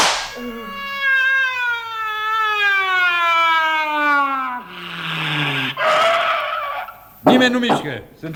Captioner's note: gunshot; police siren